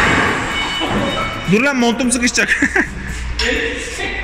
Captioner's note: laughing